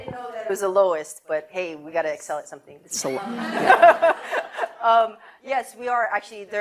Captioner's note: laughter